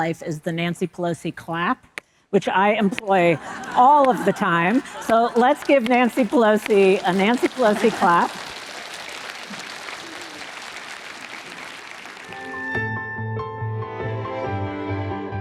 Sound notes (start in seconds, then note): 8.5 audience applauding; 12.4 light music